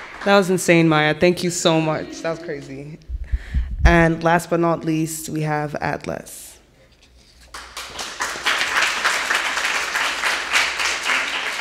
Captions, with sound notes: - That was insane, Maya. Thank you so much. That was crazy. And last but not least, we have Atlas. (audience applauding)